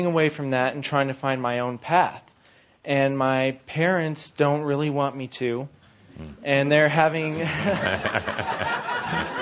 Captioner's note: laughter